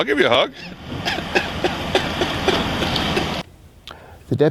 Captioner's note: laughter